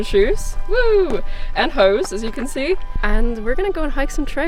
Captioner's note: cheers